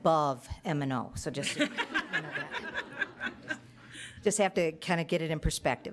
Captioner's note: audience laughing